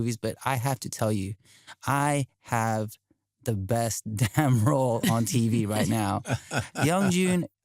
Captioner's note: laughter